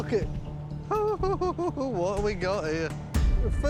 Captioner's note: chuckling